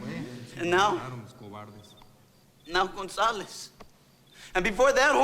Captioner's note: overlapping chattering